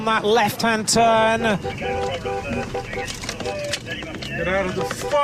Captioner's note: car honking